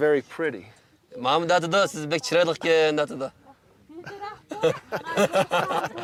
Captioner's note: translator speaking in foreign language; laughing